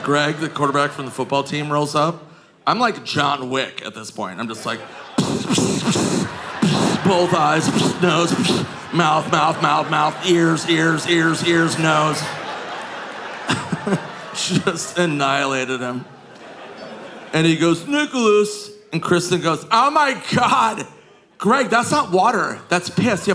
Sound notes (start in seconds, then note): 4.8 Nick imitates gunshots; 14.4 laughing